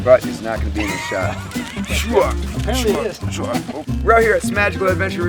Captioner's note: laughing